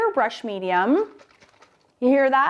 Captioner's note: liquid sloshing